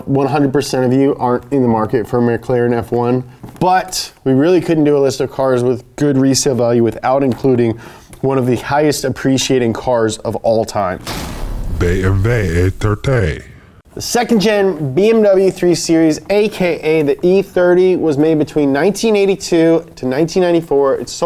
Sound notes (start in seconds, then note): 11.4 voiceover